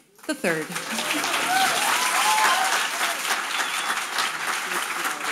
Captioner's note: audience applauding